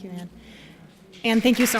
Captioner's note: applause